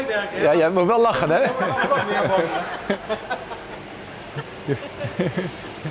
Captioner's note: speaking Dutch; replying in foreign language; loud laughter